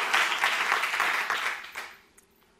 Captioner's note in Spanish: aplausos